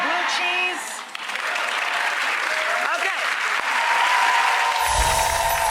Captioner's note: audience applauds